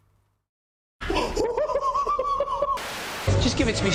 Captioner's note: instructor laughing